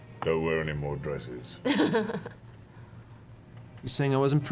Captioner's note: laughs